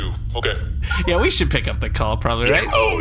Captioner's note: incoming transmission sound